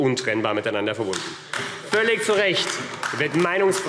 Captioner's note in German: Beifall AfD